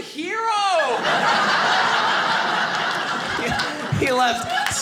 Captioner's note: audience laughing